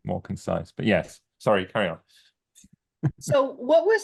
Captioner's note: chuckles